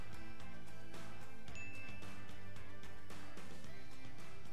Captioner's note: bell dinging